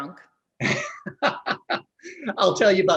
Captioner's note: laughs